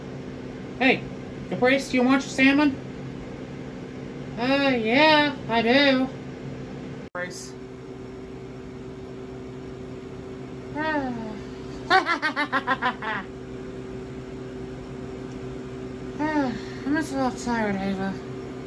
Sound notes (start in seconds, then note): 11.8 laughs